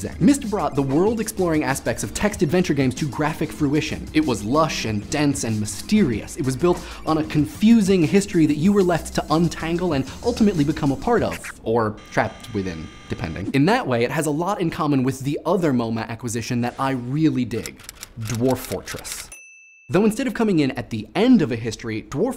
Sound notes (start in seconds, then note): 12.0 buzzer sounds